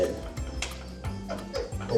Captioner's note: stoned hand slap, humorous chuckling